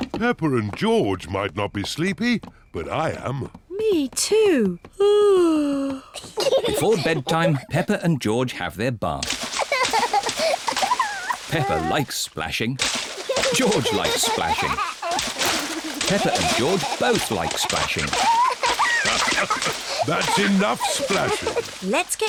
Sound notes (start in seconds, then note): 5.2 yawns; 9.3 giggles; 15.2 giggles; 18.9 laughs